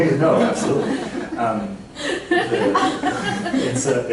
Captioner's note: laughter